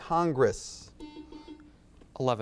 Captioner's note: buzzer beeps